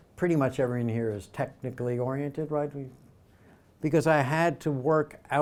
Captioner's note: none